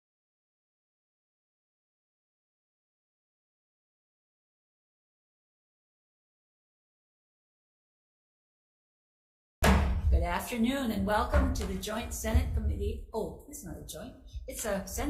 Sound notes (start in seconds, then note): 9.6 gavel bangs